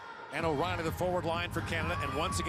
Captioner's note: booing